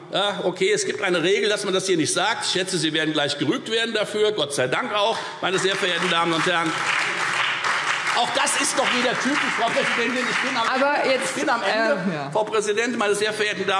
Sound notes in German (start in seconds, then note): 5.4 Beifall Freie Demokraten, CDU und BÜNDNIS 90/DIE GRÜNEN